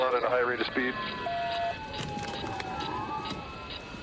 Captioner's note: sirens blaring